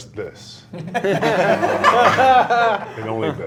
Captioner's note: laughs